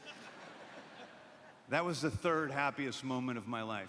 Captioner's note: laughter